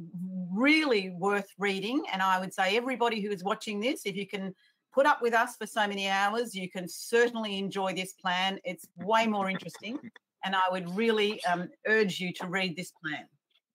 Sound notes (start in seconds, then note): 9.4 laughs